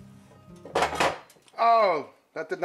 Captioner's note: skillet thudding